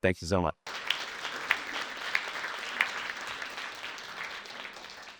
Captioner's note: audience clapping